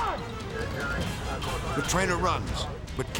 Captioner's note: police dispatch radio dialogue